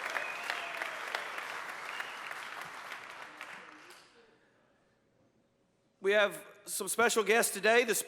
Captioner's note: applause